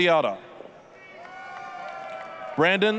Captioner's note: applause, cheering